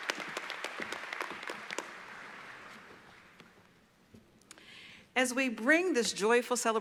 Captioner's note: applause